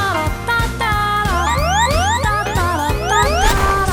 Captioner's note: Mario Kart blue shell SFX